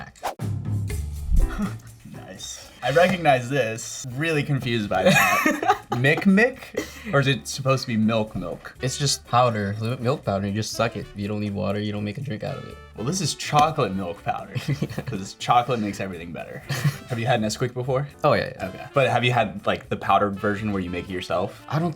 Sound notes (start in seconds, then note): 5.0 laughs